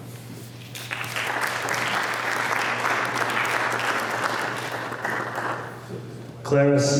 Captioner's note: applause